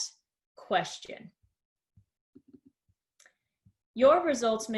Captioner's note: silence